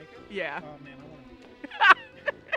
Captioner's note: laughs